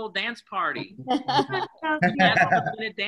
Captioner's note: laughing